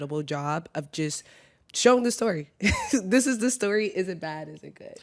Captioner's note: chuckles